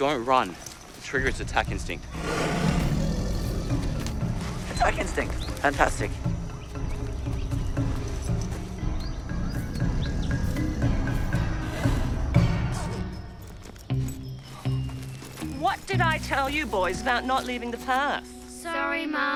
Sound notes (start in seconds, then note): 2.0 growls